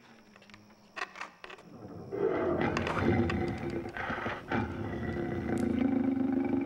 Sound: growling Continues

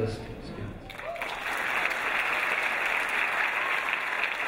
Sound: applause

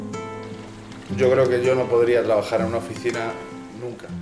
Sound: speaking Spanish

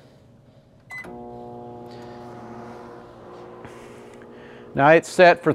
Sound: microwave humming

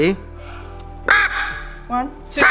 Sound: bird caws

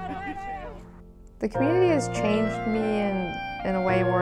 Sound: laughing loudly

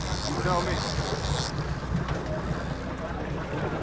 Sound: cranking

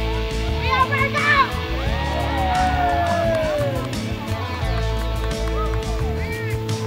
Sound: group cheering

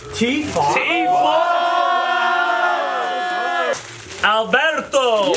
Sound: shouting

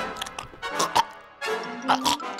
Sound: gags

